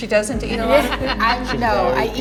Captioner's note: laughs